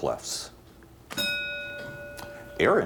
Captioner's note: bell dings